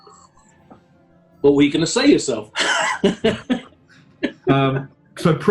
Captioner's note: laughing